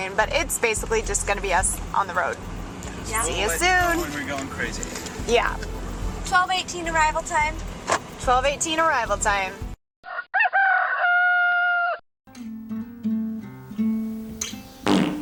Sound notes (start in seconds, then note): 10.0 roster crowing; 12.6 upbeat music